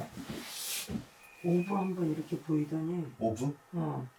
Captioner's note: whistle